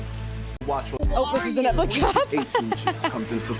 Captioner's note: laughs